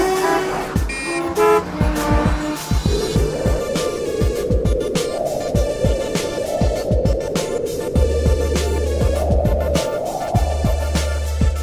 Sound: sneaky spooky music; atmospheric wind whistling

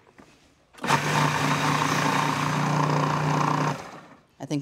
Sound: processor whirring

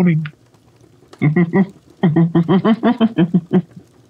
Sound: Holmes laughs

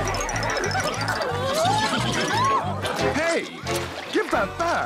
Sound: all laughing

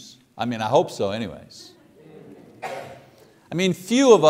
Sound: congregation laughs

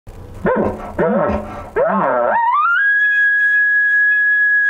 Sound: elk call squeals

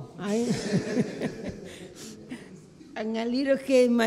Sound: laughing

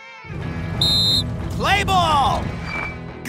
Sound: whistles

